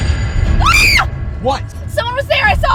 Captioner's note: eerie music; Shelby screams